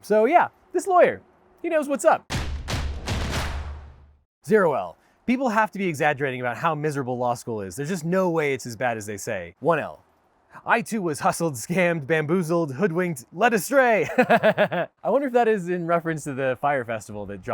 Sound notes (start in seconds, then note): 2.3 drums beat; 14.1 laughs